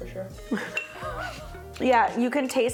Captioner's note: laughing